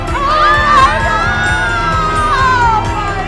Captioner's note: yelling